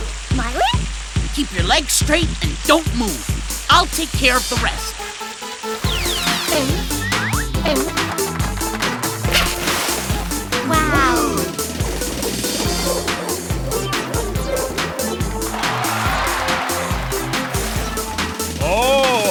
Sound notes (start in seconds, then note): 8.0 applauding; 14.7 applauding and cheering